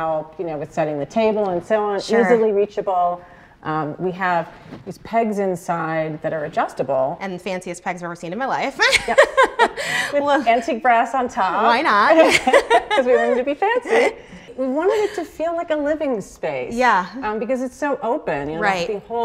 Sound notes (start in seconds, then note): 8.8 laughing